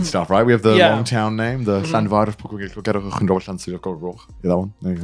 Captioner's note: speaks Welsh